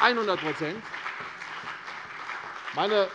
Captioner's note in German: Beifall CDU und BÜNDNIS 90/DIE GRÜNEN